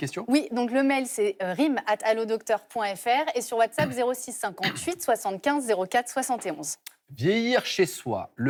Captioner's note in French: raclement de gorge